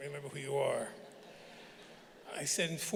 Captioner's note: audience laughing